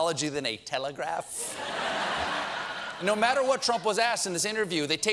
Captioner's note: laughter